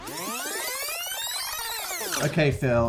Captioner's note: rewind sound